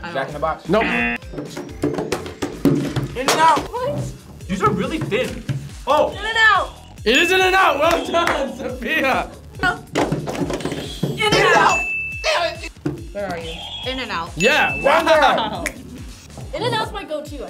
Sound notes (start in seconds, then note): 0.8 buzzer blaring; 1.8 hands banging on table; 1.8 box hitting the floor; 7.8 clapping; 11.5 bell dings; 14.4 bell dings; 14.9 laughing